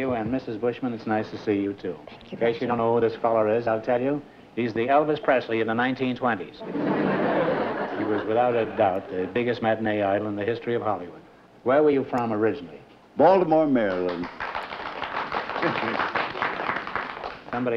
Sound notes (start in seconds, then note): 6.6 laughter; 13.8 applause